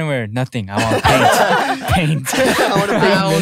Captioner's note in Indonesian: tertawa